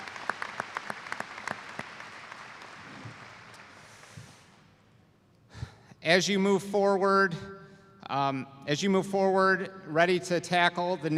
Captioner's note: applause